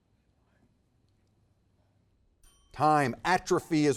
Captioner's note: teammates whisper; timer dings